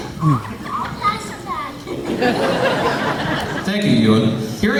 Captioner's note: laughter